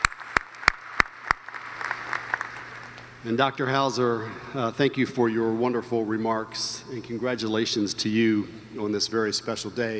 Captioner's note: applause